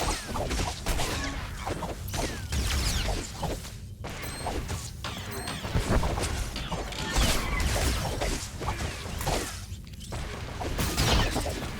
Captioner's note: gunshots